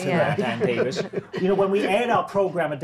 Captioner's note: laughing